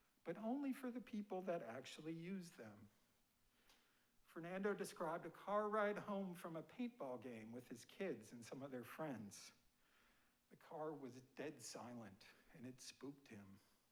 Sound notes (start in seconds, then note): none